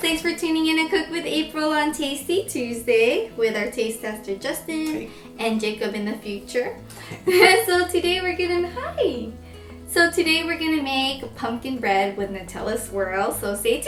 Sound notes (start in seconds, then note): 6.9 both laugh